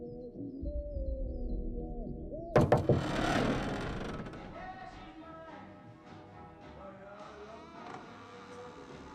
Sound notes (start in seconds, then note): 2.4 knuckles rapping; 2.5 door creaking